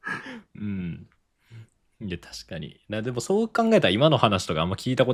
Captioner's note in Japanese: 咳払い